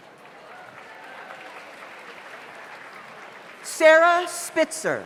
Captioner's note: audience applauds